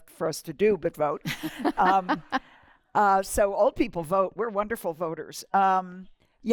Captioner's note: laughter